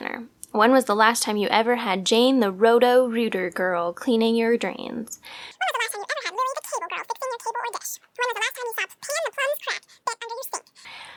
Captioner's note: sped up talking